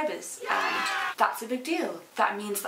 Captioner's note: crowd cheers